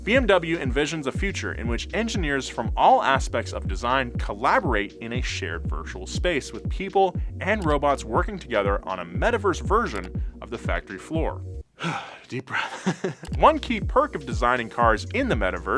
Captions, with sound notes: BMW envisions a future in which engineers from all aspects of design collaborate in a shared virtual space with people and robots working together on a Metaverse version of the factory floor. (deep breath) Deep breath. (chuckles) One key perk of designing cars in the Metaverse